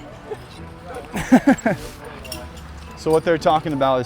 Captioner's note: laughing